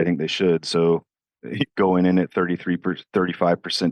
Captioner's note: chuckles